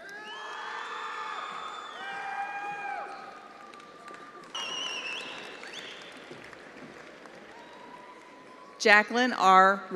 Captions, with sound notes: Victoria Hall. (attendees cheering)